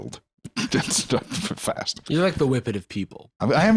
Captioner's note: laughs